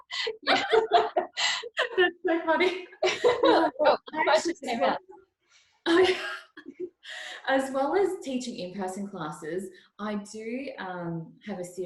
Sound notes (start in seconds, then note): 0.0 both lauging; 5.8 laughs